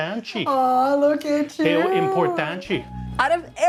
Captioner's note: in Portuguese